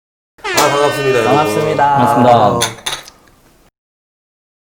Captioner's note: cheers